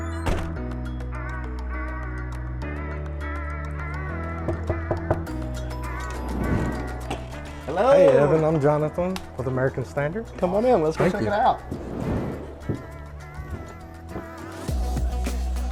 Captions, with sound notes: (hand knocking) - Hello. - Hey Evan, I'm Jonathan with American Standard. - Come on in. - Let's go check it out. - Thank you. (upbeat music)